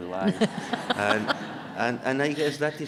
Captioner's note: audience laughing